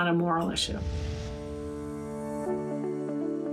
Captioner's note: swoosh